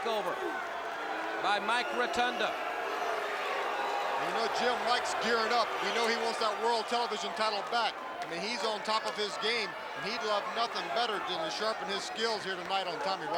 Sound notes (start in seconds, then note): 9.5 crowd cheering